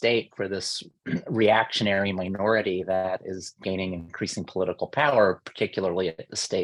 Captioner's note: cough